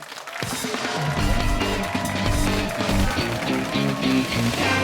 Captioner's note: cheers and applause